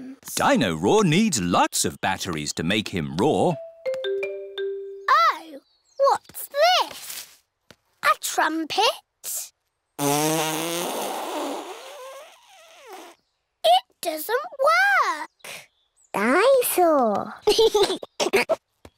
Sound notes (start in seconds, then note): 10.0 blows raspberry; 17.4 giggles